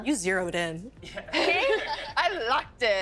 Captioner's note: laughing